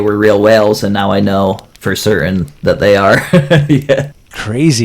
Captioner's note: laughs